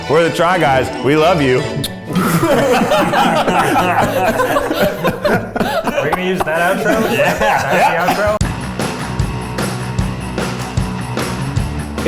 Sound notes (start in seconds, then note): 1.7 lips smacking; 1.8 all laughing; 8.7 upbeat music